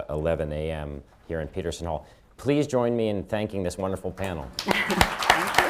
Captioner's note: applause